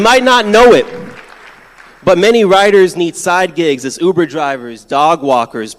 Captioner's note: applause